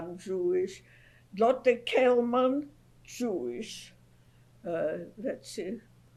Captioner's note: non-english